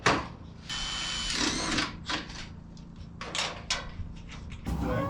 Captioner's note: drill running